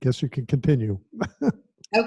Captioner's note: chuckling